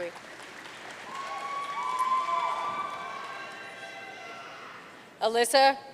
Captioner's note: audience cheering and applauding